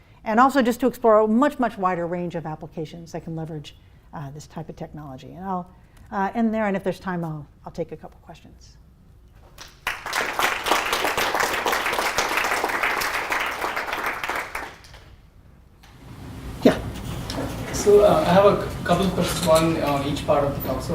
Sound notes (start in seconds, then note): 9.5 applause